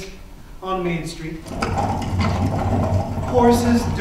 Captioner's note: sound of buggy wheels